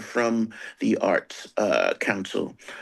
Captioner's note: none